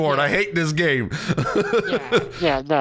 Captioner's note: laughing